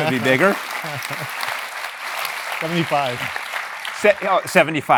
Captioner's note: applause